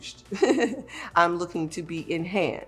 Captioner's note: chuckles